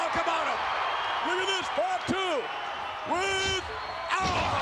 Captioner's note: spectators cheering